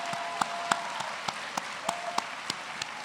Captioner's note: cheers and applause